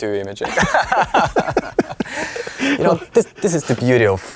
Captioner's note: both laughing